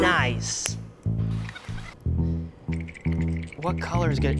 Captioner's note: sped up voice squeaks